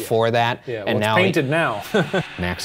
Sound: chuckles

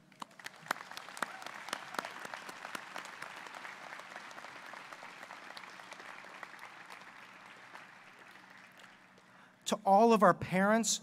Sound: applause

